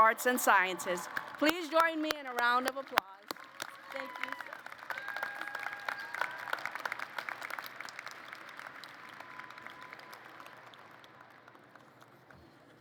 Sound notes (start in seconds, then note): 4.6 applause